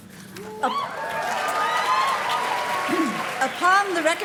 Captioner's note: audience cheers and claps